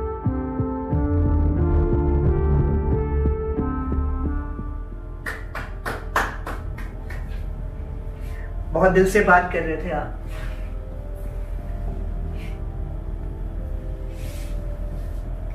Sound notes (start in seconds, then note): 5.2 clapping